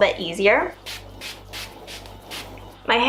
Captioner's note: spraying water into hair